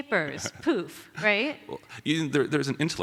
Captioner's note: laughs